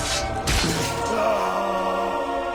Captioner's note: grunts